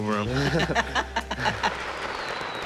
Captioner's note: laughter